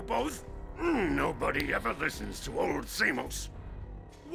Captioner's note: grunts